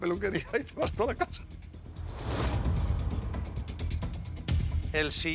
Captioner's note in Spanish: ríe